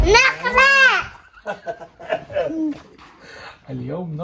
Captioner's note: laughing